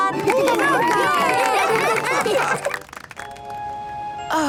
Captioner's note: cheering, applause